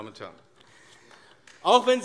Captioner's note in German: Beifall AfD